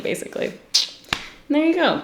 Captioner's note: sucks teeth